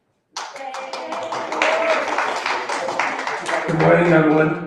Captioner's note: applause